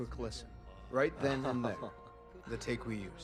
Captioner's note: chuckles